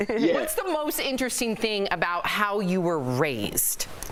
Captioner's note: laughter